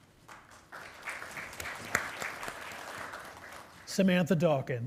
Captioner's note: attendees applauding